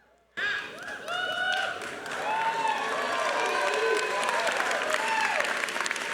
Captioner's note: crowd cheering and applauding